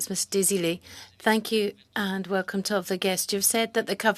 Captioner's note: speaking french